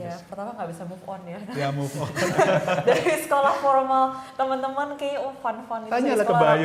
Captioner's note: laughing